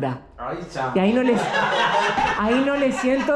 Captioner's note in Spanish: Risas